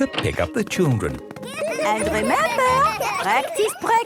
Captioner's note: laughter